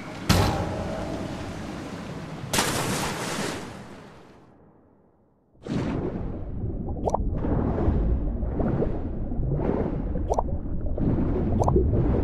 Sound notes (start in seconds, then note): 2.5 fall into water